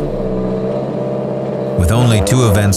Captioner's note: car engine revving